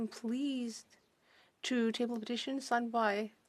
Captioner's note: speaking French